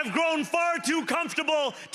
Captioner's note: cheering